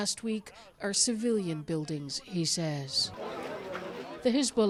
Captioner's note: speaking alternate language